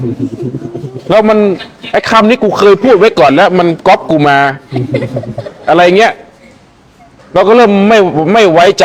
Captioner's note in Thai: เสียงหัวเราะ